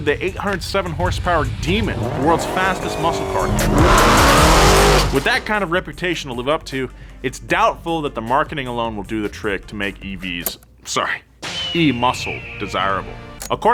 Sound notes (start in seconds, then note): 4.2 car engine revs